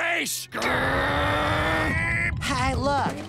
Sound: growling

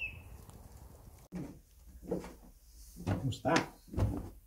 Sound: stairs creak

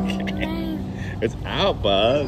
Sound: laughing

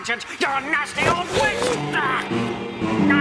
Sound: the Witch gasps

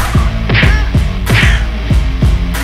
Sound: punch

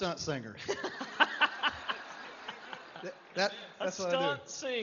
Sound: laughter

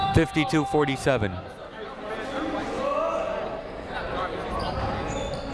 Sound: people talking in the crowd

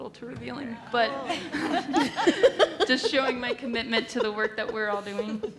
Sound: laughs

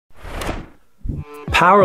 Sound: sound effect

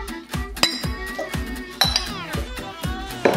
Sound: glass clinks

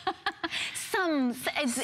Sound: laughter

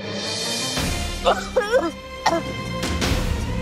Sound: coughing

